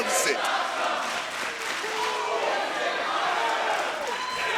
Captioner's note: audience cheering